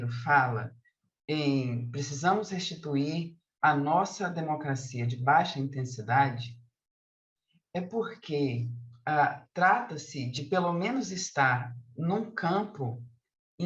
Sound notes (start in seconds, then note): 2.4 continues speaking in Portuguese